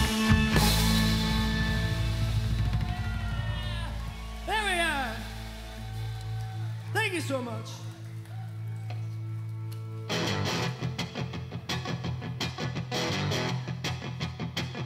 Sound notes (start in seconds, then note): 3.9 crowd cheering